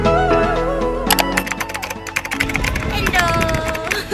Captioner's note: keyboard Clicking & Typing